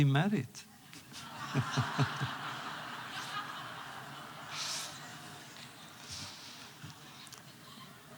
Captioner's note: laughter